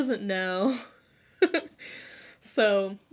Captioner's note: laughs